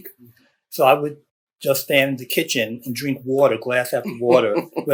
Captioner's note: laughter